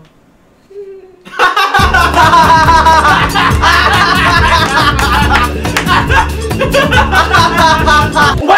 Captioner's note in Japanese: 大爆笑の嵐